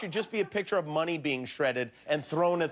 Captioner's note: laughter